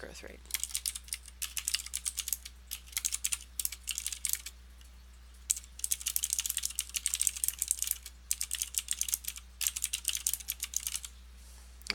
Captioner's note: typing